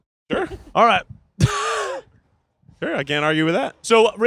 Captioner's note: wheezing